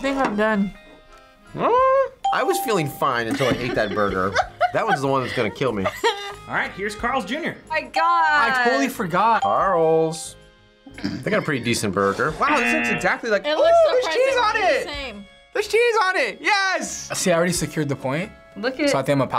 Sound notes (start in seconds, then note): 2.2 bell rings; 3.3 laughs; 9.5 bell rings; 12.4 buzzer rings